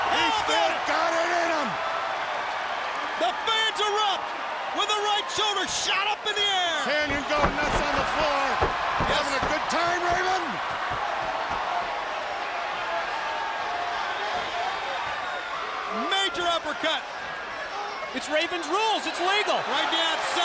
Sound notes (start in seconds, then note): 11.3 crowd cheering